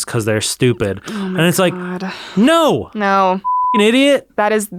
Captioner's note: beep